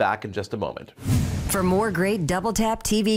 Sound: whoosh

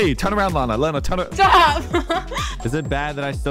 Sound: laughs

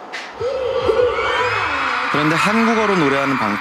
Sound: cheering

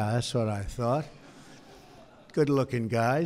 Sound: laughter

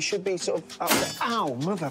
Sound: clang

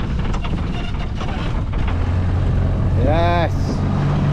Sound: engine sputters

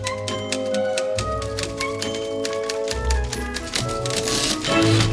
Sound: typing sounds grow louder and return bell rings; typewriter bell rings

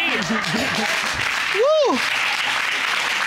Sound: applause

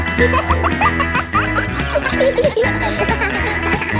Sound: kids laughing; pop music playing

